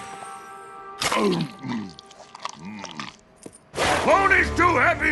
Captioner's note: munching